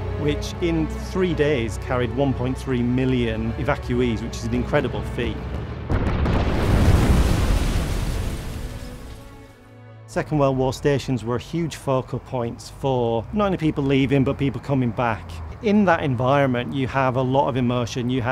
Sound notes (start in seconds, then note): 5.5 bombs explode